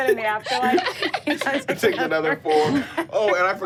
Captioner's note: all laughing